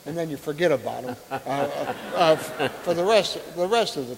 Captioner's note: audience laughing